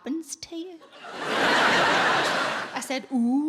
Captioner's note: audience laughing